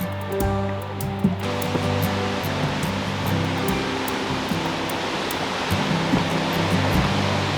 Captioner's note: gentle music; water crashing